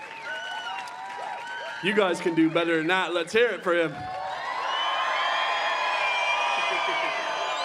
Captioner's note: cheering and applause